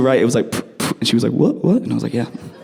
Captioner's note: spit sound effects